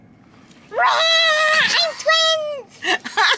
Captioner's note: exclaims; laughs